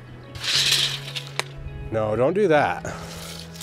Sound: tape measure rattling; upbeat music; tape measure rattling

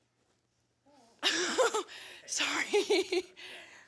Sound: laughs

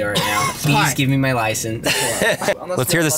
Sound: Lincoln's friends laugh

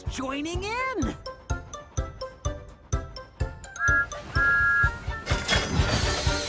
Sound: Thomas Whistles

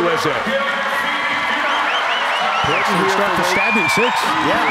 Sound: crowd cheering

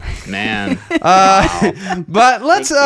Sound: laughing

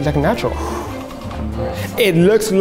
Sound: exhales

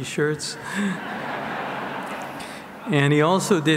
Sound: audience laughs

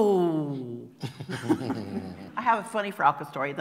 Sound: laughter

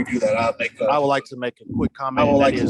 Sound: audio is echoing

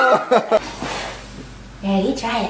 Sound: blowing

